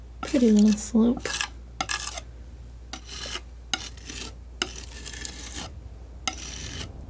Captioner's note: scratching